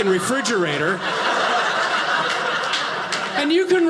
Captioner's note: audience laughing